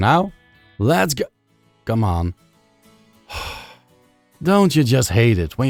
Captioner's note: sigh